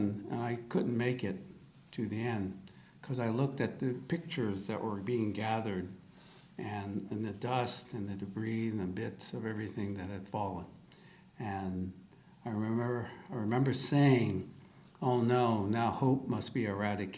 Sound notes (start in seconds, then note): none